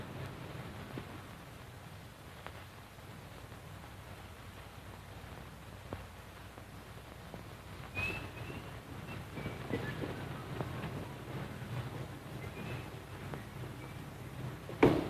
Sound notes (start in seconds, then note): 7.8 whistling